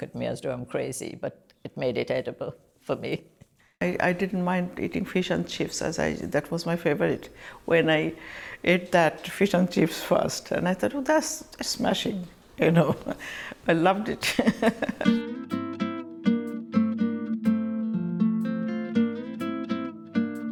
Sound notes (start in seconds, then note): 14.2 laughs; 15.0 laidback acoustic guitar music